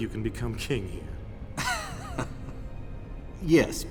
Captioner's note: chuckles